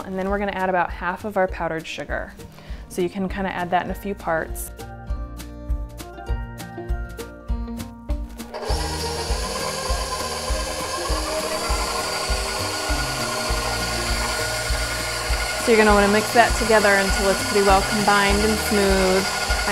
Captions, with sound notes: And then we're gonna add about half of our powdered sugar. So you can kinda add that in a few parts. (happy music) (whirring) So you're gonna wanna mix that together until it's pretty well combined and smooth.